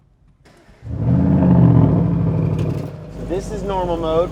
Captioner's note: car revving